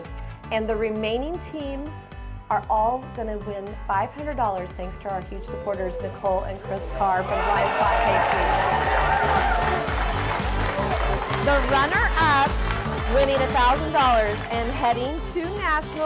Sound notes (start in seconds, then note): 8.7 crowd cheering and clapping